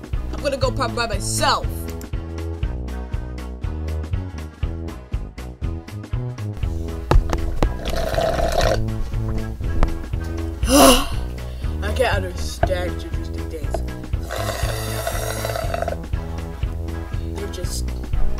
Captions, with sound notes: I'm gonna go to prom by myself! [Ssssllllluuuuurrrrrppppp] [Sigh] I can't understand gingers these days... [sssssllllluuuuuurrrrrpppppp] They just...